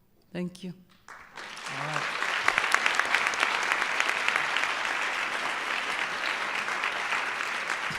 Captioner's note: applause